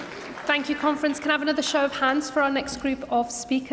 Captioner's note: cheering & Applause